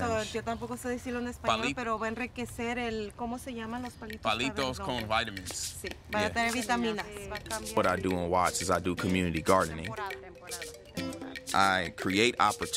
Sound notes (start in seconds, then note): 1.9 woman speaking Spanish; 2.7 man speaks Spanish